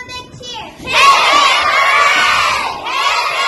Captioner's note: cheers